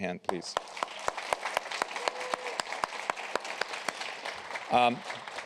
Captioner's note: applause